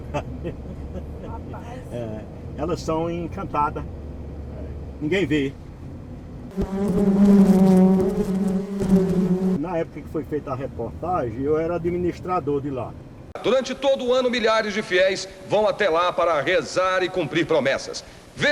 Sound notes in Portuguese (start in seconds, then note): 0.0 Risos; 6.5 Zumbidos